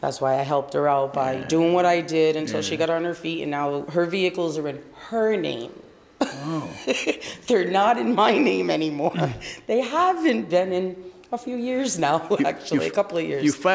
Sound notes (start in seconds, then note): 6.2 laughs